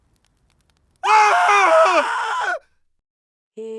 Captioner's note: screaming